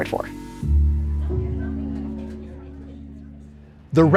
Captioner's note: restaurant chatter